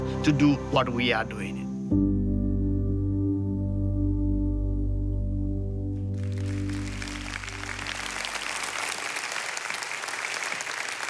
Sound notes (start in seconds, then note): 2.0 gentle music; 6.1 audience applauds